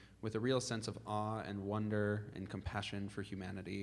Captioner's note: none